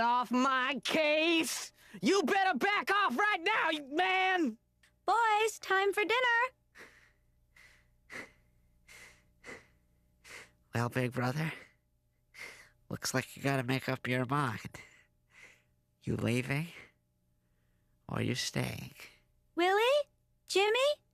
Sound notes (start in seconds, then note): 6.7 breathing heavily